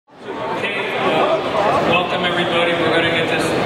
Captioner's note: audience chatters